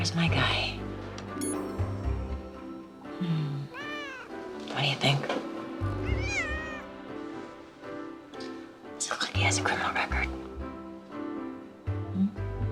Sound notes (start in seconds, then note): 3.6 cat meows; 5.9 cat meows